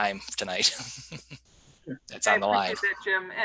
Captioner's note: giggling